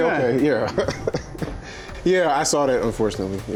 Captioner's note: laughing